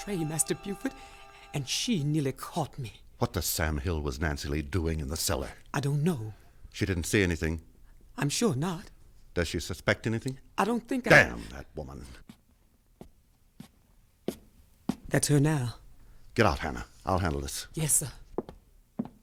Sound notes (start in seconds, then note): 14.2 footsteps approach